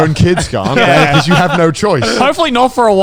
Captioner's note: laughs